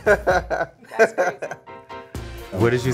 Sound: man laughing

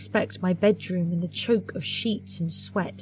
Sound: none

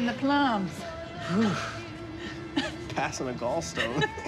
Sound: Rufus sighs; laughing

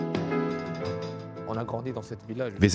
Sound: speaks French

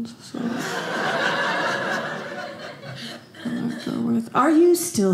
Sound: audience laughing

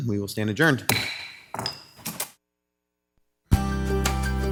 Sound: gavel banging; mellow music

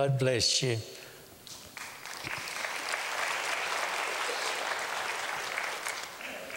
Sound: applause

